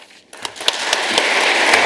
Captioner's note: applause